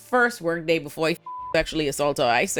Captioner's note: beep